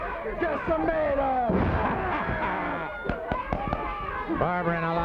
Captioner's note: laughs